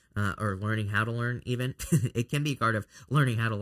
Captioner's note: chuckles